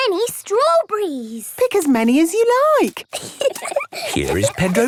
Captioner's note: giggling